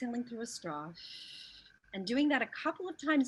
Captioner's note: exhales